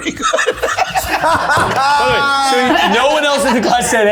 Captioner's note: everyone laughing